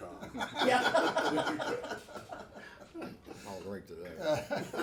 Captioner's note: everyone laughs